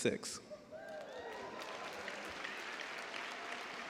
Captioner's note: cheers and applause